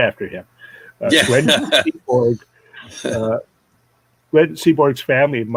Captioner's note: all laughing